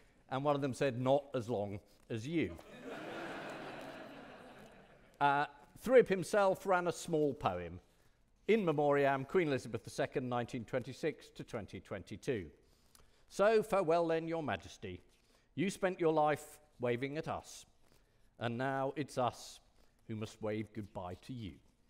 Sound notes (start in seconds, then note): 2.6 audience laughing